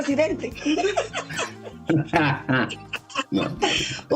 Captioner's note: laughs